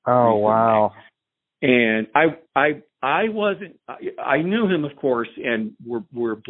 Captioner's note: on phone